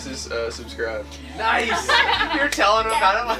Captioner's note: laughs